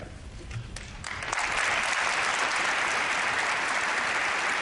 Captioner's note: applause